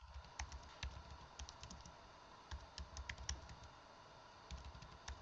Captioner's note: keyboard clicking